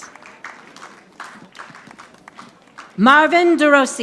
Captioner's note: audience applauding